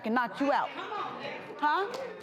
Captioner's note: crowd murmurs